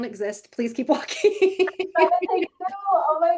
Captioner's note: laughing